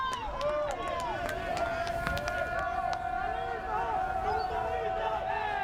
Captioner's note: fans yelling and chanting